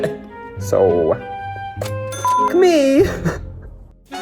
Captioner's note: beep